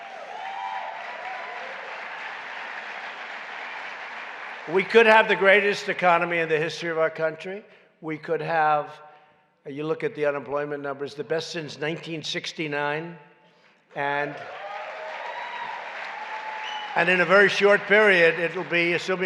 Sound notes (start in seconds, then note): 0.0 applause; 14.2 applause